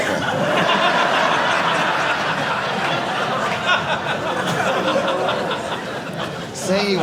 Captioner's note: audience laughing